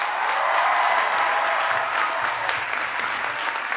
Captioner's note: applause